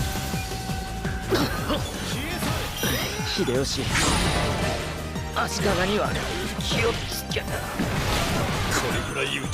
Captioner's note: cough